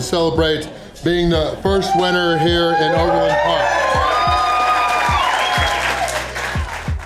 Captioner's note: crowd cheering and applause